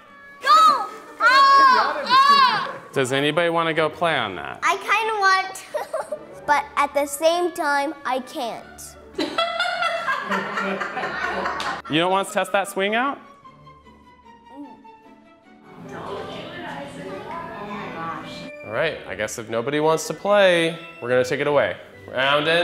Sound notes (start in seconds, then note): 0.0 soft classical music; 0.4 kids yelping; 9.2 laughing